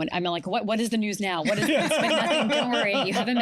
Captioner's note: laughter